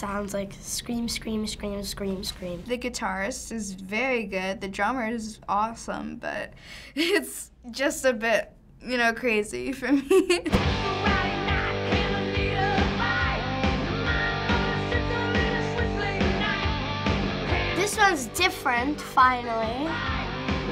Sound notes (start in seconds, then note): 6.4 laughing